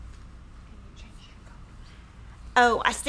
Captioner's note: whispering